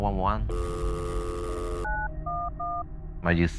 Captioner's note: touch tones